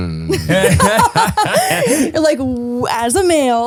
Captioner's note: laughing